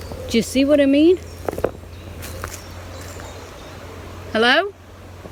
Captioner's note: birds chirping